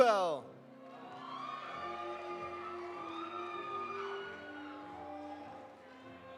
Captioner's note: audience applauding; audience cheering